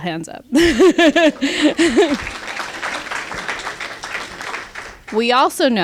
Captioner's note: applause